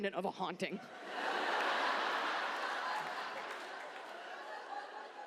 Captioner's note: audience laughs